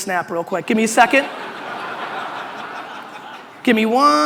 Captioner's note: audience laughter